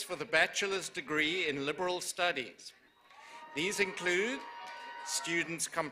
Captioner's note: cheers and applause